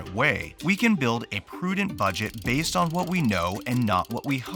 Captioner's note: crank rattling